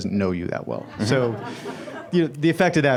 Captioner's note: laughter